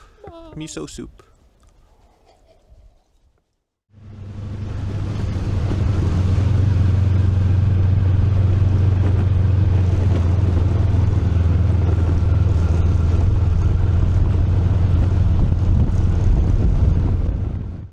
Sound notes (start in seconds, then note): 2.4 slurp